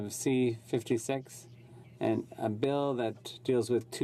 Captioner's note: speaking in French